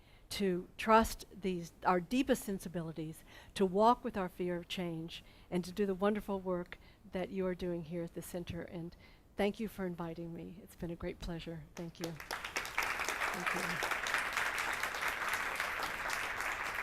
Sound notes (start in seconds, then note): 12.0 audience applauding